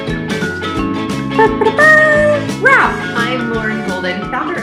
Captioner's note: mimics trumpet